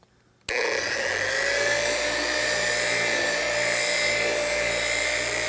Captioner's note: loud mechanical whirring